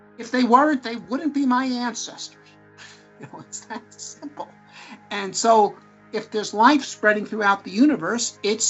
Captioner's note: laughter